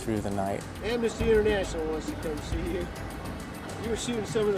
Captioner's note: laughing